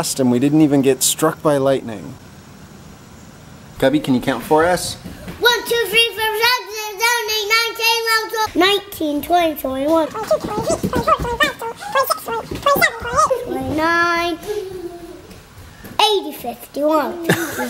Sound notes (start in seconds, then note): 10.2 audio speeds up